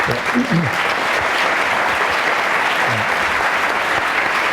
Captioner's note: audience applause